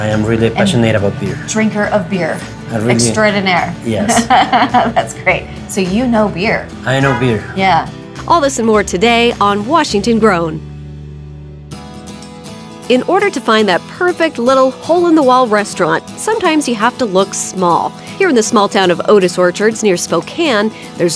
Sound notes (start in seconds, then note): 6.9 laughing; 12.2 upbeat music